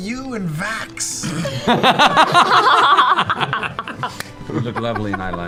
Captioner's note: laughter